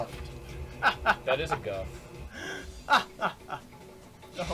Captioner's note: chuckles